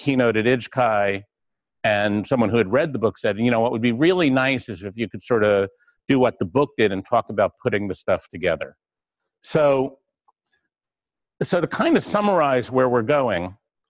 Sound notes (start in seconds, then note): 9.2 pause